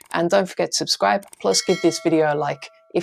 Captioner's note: bell ringing